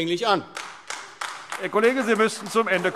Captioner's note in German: Beifall AfD